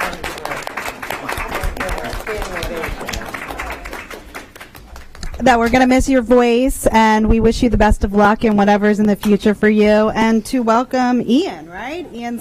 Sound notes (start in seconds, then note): 2.6 applause